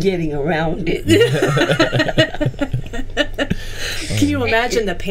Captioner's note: group laughing